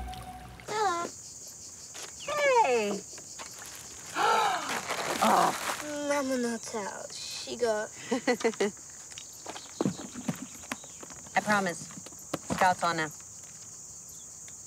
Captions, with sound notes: Hello. Hey. [Gasps] Mamma no tell, she go... [Olive chuckles] I promise, scouts honour.